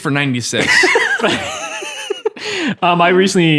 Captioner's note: laughing